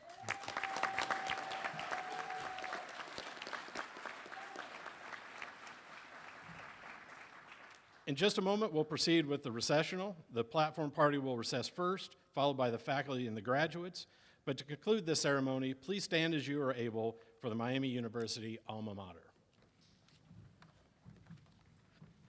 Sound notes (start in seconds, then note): 4.4 applause